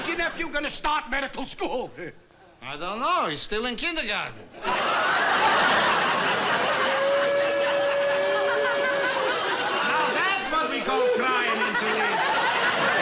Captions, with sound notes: When is your nephew going to start medical school? I don't know, he's still in kindergarten. [SOBBING] Now that's what we call crying in Toledo.